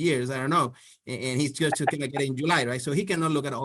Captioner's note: laughs